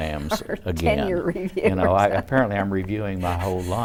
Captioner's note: laughs